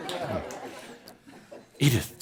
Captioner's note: laughter